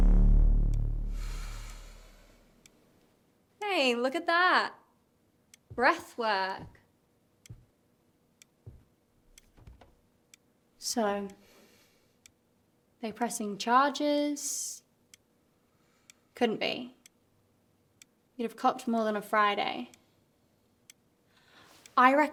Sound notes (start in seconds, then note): 1.1 Lani breathing heavy